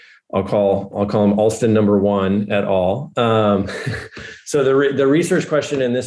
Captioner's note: laughing